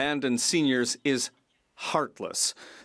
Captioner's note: speaking French